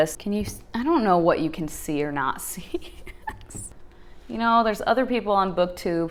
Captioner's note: laughing